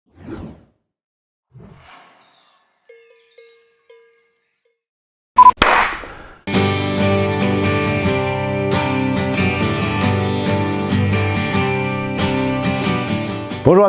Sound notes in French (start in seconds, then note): 5.4 Bip Bip; 5.4 Clap